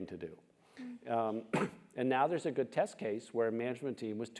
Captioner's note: cough